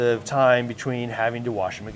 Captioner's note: none